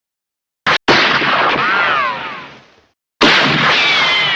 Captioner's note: gun shots echoing